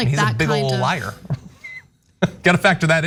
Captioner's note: laugh